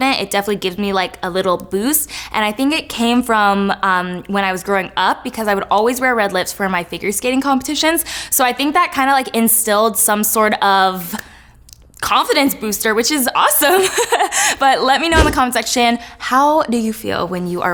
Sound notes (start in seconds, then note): 15.2 laughs